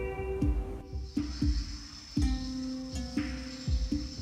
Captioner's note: wildlife chirping